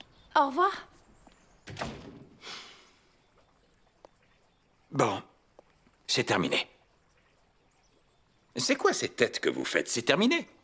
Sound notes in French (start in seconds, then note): 1.6 la porte se ferme